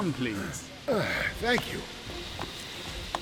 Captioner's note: de Blowitz sighs